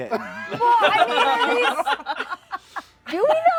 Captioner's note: laughter